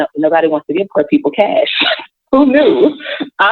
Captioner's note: chuckles